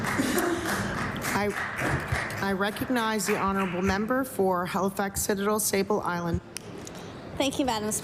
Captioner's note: applause